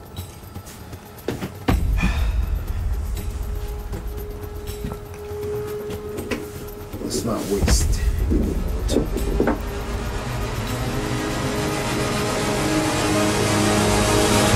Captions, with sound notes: (sighs) Let's not waste any more time. (terrifying music)